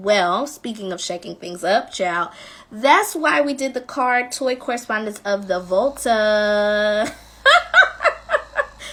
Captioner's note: laughing